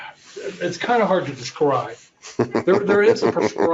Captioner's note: laughs